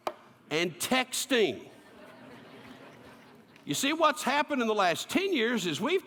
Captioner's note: laughter